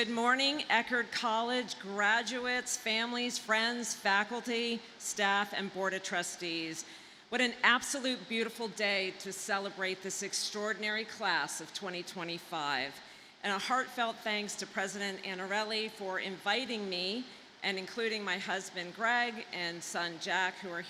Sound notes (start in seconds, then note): none